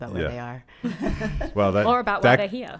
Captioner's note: laughing